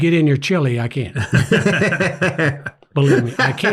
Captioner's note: everyone laughs